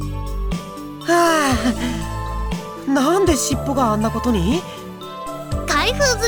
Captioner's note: catching breath